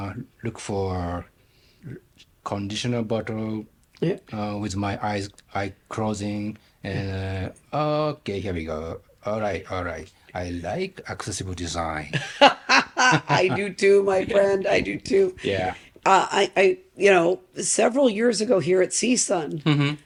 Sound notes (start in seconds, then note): 12.1 laughing